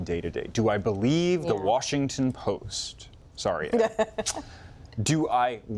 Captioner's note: laughter